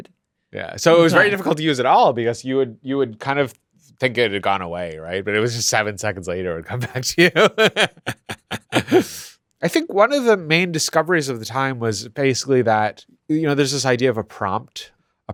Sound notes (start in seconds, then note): 6.7 laughs